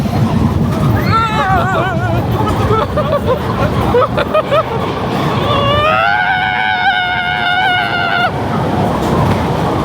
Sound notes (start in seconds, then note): 3.5 laughing and screaming